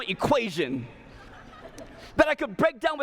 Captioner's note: laughter